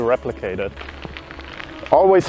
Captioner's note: gravel crunching